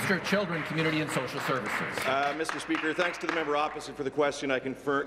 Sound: applause

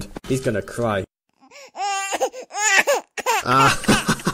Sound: baby crying; laughs while baby cries

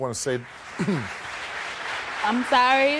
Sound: audience applause

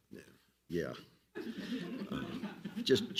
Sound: all laugh loudly

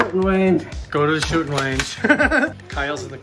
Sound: laughs

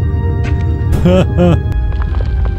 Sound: laughs

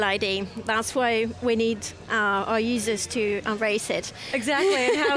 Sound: laughing

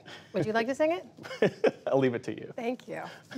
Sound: laughter

